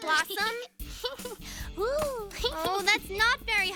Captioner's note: laughing